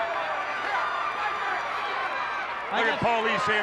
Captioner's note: audience cheers